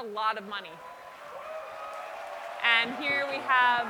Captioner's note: cheering